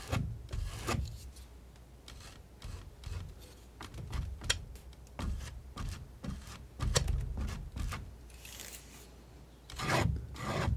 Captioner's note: scratching